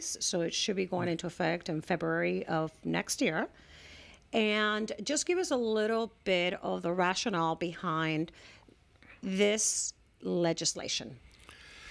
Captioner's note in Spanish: Hablando ingl\s